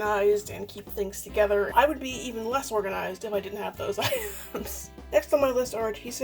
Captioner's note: laughs